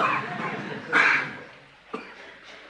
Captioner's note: laughter